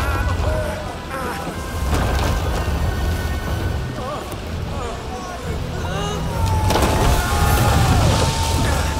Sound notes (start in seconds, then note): 6.3 sailors yell